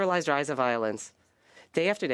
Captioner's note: speaking in French